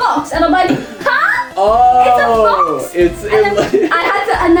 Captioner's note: laughs